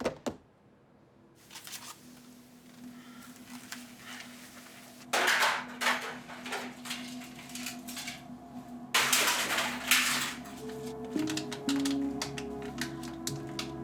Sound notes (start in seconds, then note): 5.5 plastic noises